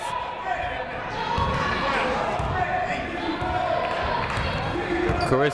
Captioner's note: people shouting in the crowd